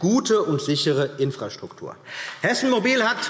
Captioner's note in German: Beifall